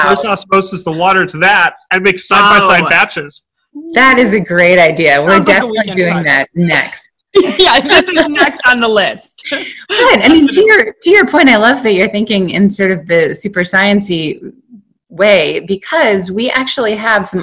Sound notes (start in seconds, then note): 5.2 laughing